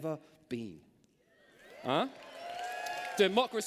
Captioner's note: cheers